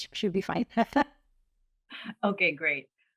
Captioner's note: laughter